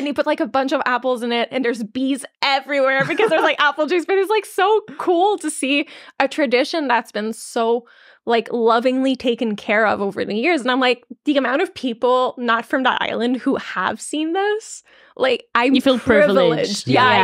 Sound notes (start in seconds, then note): 3.0 laughing